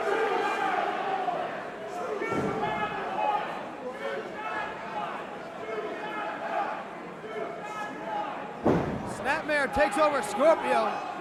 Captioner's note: crowd cheering